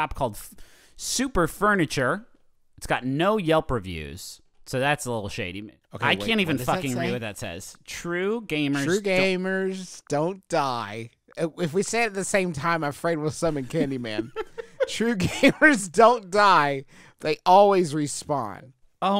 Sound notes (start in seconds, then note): 13.5 laughs